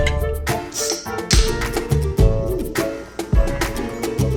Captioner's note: playful music continues; can hissing; soda fizzing